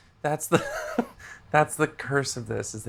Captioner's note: laughs